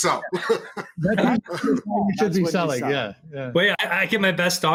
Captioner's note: men conversing